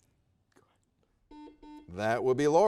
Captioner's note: buzzer dings